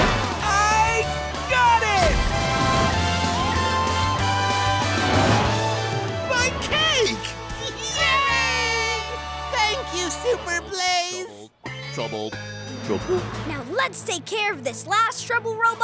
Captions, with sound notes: I got it! My cake! [cheering] Thank you, Super Blaze. Trouble. Trouble. Now let's take care of this last trouble robot